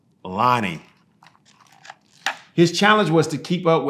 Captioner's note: pages rustling